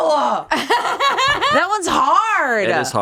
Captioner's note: laughs